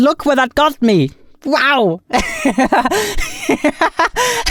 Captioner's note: laughs